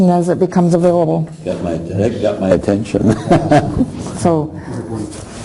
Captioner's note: laughing